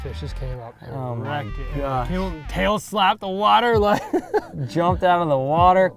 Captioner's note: laughs